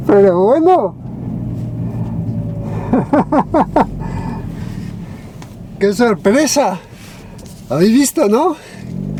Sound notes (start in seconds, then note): 2.7 laughs